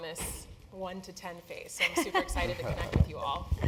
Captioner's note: laugh